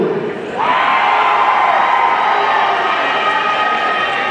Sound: audience cheering

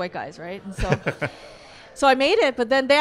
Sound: laughs

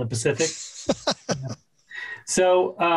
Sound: laughs

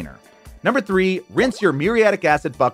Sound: graphics popping

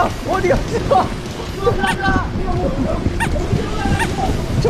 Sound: fumbling

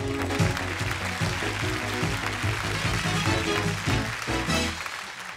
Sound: cheers and applause

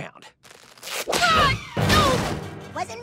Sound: screams

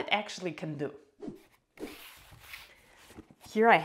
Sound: air swooshing

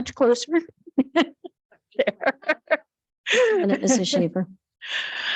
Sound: laughing

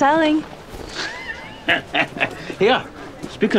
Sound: laugh

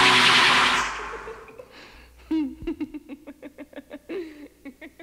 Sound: giddy laughter

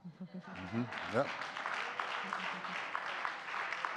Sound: audience clapping

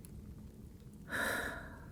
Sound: sigh

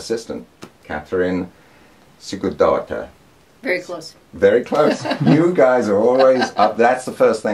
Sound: laughter

